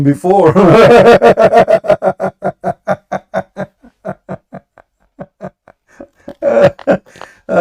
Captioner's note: Ketawa